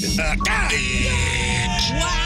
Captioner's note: cheering